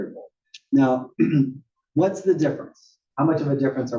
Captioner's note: cough